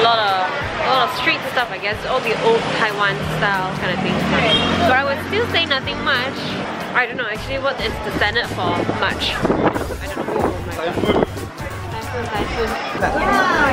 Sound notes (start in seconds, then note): 10.7 sudden strong wind